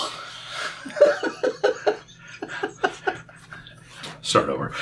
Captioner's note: laughing